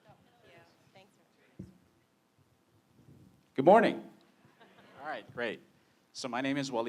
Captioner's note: laughter